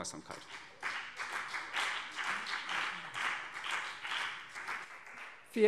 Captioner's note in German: Beifall CDU und BÜNDNIS 90/DIE GRÜNEN